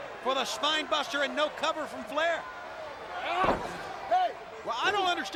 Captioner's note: crowd clamoring